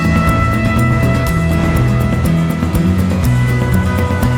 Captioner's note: none